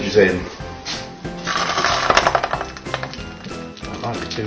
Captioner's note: sizzle